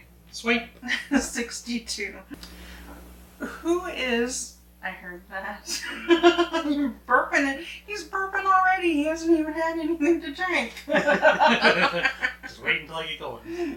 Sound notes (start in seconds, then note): 5.7 laughing; 10.8 both laughing